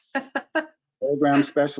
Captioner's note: laughs